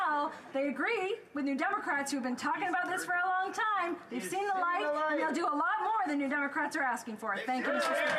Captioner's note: some Applause